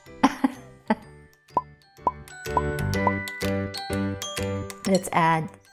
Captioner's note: chuckles; cork popping